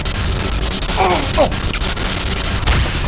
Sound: surprised

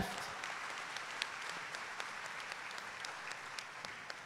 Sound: audience applauding

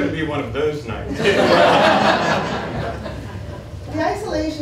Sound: laughter

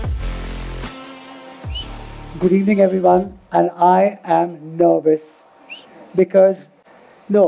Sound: Sadhguru laughs

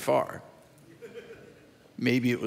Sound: audience member chuckles

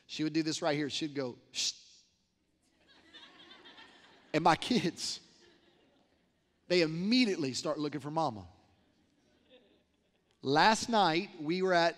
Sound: laughter

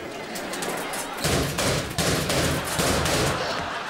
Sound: slamming

